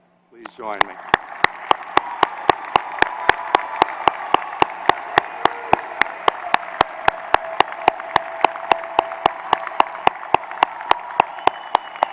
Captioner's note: applause